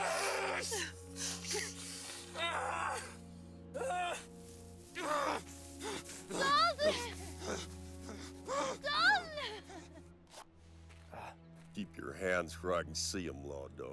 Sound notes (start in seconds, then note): 2.3 Dalton growling